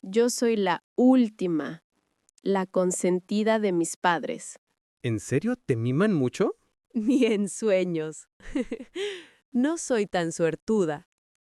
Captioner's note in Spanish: risas